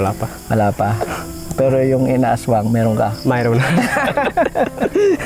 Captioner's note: laughs